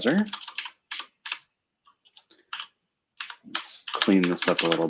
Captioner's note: typing